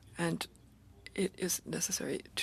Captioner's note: speaking French